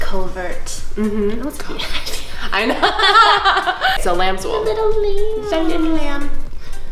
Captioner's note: laughing